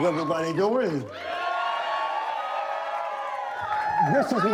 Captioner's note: cheering